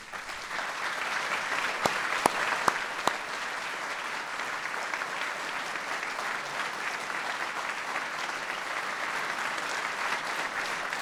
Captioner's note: applause